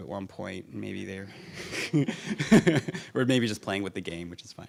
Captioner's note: laughs